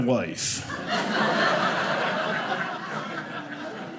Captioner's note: audience laughing